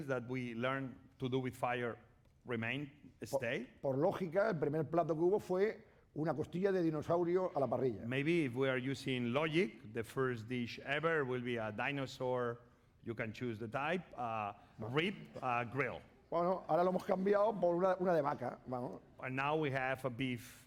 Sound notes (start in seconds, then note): 4.5 speaking spanish; 17.2 speaking spanish